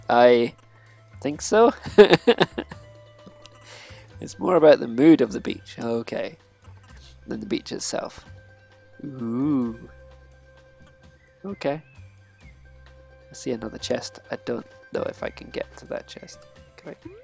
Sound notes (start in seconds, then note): 1.7 laughs